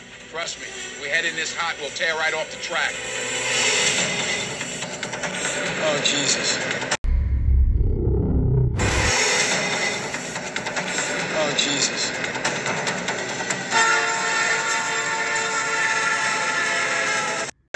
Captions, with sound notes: Trust me. We head in this hot, we'll tear right off the track. Oh, Jesus. Oh, Jesus. [1206 BLOWS A P5 HORN]